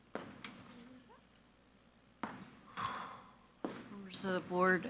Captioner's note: speaks faintly